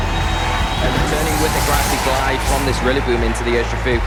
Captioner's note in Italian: effetti sonori del gioco